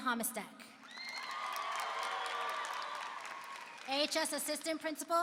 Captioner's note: applause and cheering